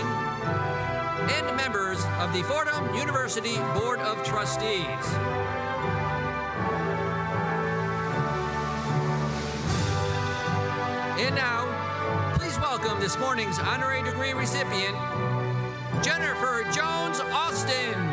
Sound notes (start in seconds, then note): none